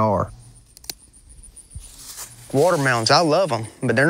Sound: garden tool clipping

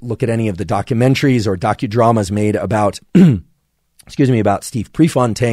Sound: clears throat

